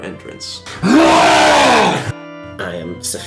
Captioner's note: long wookie roar